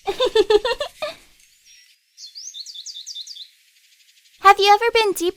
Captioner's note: Acela giggling; Ezrak giggling